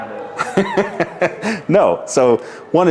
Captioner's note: laughs